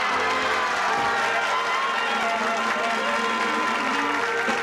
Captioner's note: applause